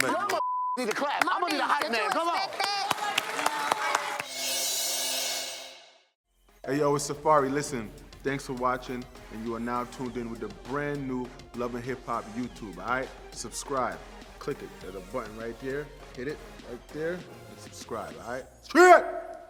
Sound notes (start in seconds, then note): 3.5 applauding